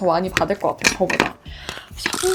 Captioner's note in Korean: 쓰읍